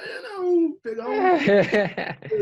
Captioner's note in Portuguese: risos